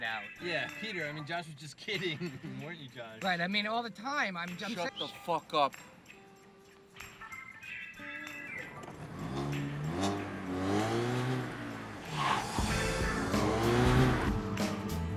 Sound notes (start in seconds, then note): 8.7 engine revs; 12.4 funky music